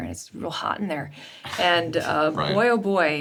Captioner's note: Richard chuckles